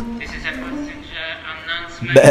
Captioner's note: Icelandic language